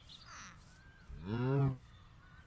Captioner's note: moo